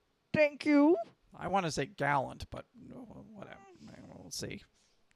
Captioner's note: grumbles